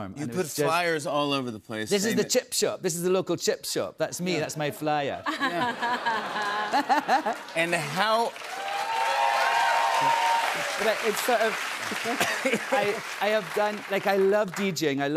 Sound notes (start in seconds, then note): 5.2 laughter; 9.0 cheers and applause